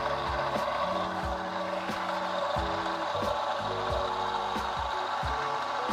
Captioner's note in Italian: Applauso